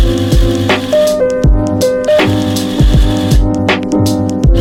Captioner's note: grinding